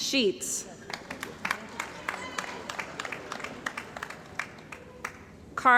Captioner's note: cheering & Applause